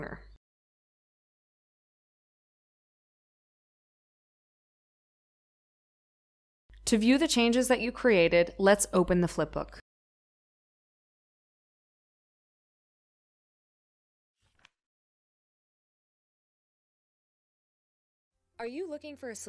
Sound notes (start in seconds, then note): 14.4 flip page sound